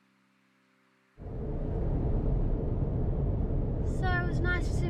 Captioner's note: road noise